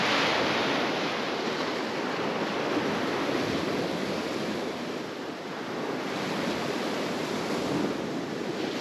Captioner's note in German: Rauschen der Wellen